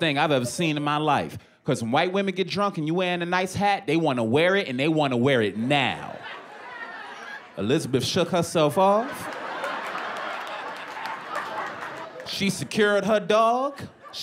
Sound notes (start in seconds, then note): 8.6 laughter